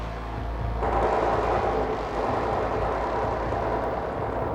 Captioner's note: gun firing